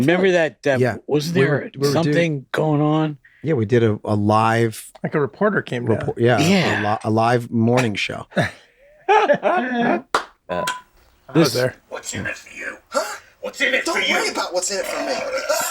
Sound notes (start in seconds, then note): 9.0 Glenn laughing loudly; 14.8 Frank growls softly